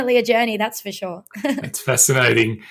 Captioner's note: laughs